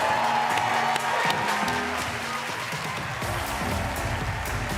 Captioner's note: cheers and applause